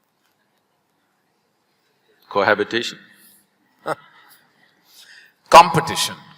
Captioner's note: Karan Johar laughs